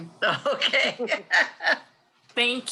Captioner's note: laughs